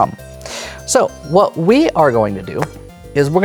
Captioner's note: slaps pen on table